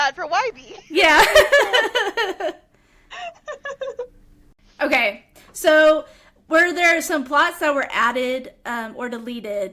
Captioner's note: laughter